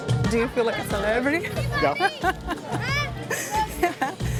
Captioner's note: laughs